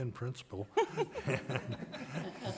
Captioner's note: people laughing